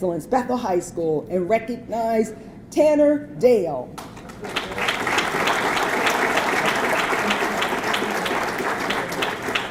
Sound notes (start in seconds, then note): 4.0 audience clapping